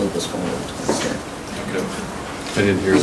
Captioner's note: softly mumbles